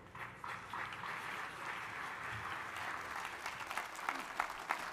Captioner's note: audience applauding